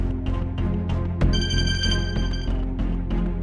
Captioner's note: phone ringing